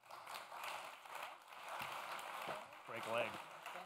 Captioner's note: applause